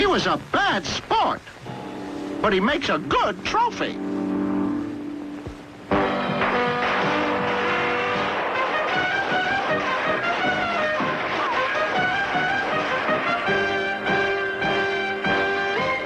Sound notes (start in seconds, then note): 6.0 guns firing; 6.2 lively music; 9.9 bullets ricocheting; 9.9 lively music; 12.9 dramatic music